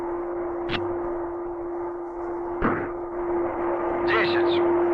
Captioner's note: switches clicking; soldier speaking in Russian